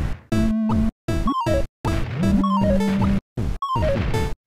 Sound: upbeat chiptune; space invaders sounds

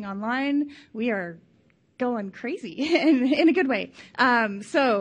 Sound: laughs

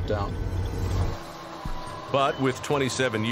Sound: mechanism humming

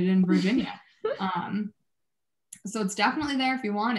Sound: chuckling

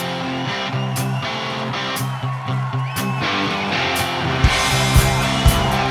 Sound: audience cheers and applauds

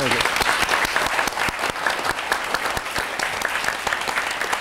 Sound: applause

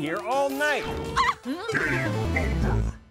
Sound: shrieks

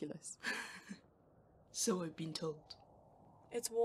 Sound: James laughs softly

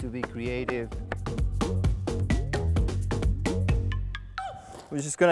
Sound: knife chopping; upbeat music

